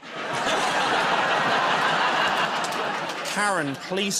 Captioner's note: laughter